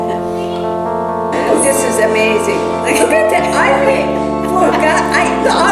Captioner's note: laughter